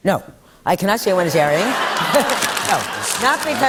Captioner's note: laughter